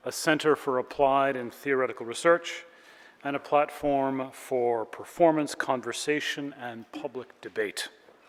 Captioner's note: none